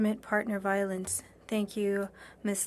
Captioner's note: speaking French